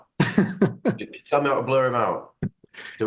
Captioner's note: laughing